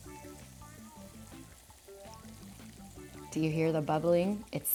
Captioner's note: liquid bubbling